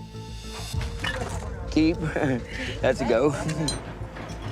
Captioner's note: laughs